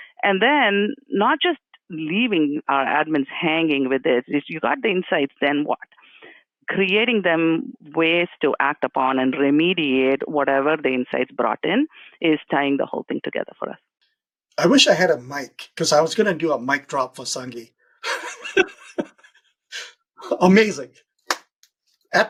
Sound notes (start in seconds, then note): 18.0 chuckles